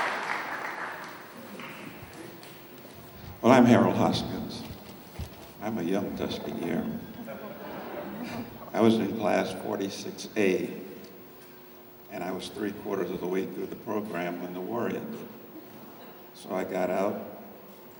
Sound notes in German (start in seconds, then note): 7.1 lacht